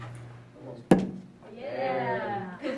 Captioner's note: pencil thuds; students chuckling